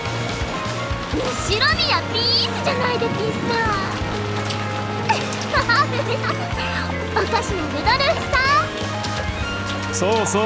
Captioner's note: giggle